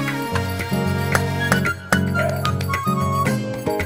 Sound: clapping

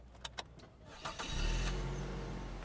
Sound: engine starts

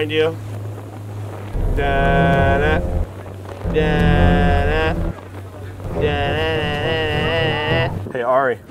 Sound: humming theme song

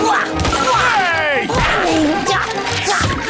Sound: grunting

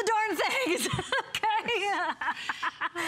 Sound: laughter

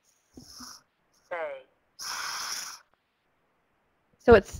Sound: voiceover; voiceover

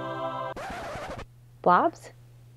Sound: record scratch

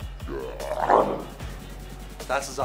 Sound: moaning; chewing

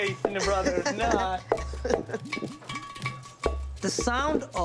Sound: laughter

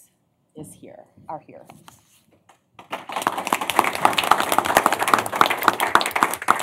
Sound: applause

